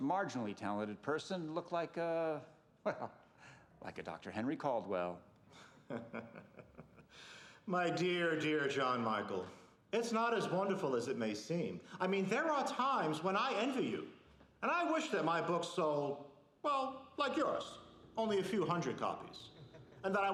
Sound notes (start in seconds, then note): 5.5 laughing